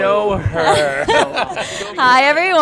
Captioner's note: laughing